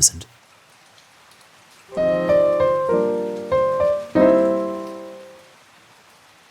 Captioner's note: gentle Background Rain